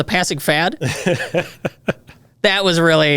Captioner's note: laughs